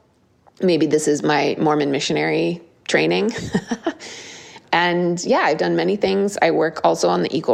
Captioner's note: laugh